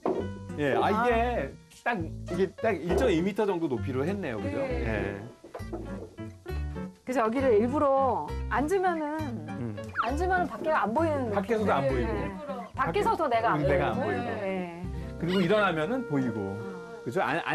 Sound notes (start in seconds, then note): 9.7 pop, pop